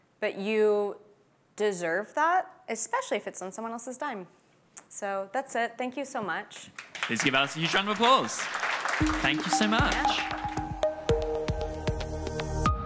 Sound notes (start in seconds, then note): 6.8 audience applause; 8.9 upbeat music